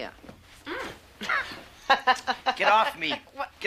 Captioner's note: Alice laughs